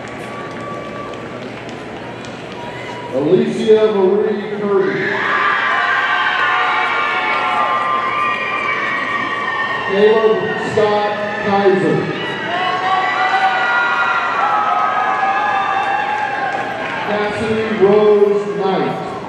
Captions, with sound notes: (audience applauding) Alysia Marie Kirby, (audience cheering) Caleb Scott Kiser, (audience cheering) Kassidy Rose Knight,